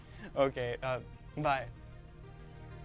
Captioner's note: chuckles